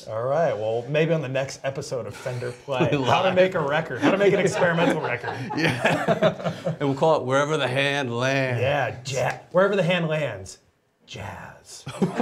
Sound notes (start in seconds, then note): 5.7 laughs; 11.8 laughing